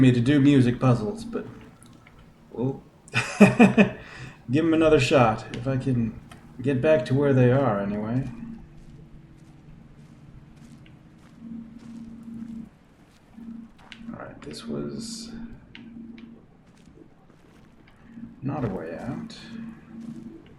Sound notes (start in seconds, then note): 3.0 chuckles